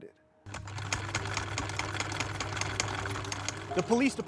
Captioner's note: sewing machine whirring